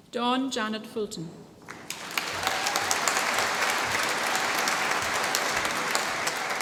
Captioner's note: applause